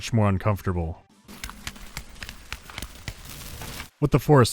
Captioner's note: tap-tap-tap-tap-tap